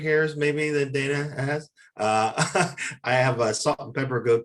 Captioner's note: laughs